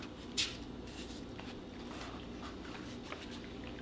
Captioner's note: paper rustling